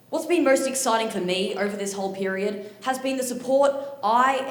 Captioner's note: none